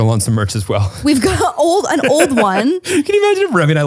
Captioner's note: laughs